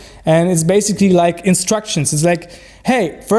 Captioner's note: none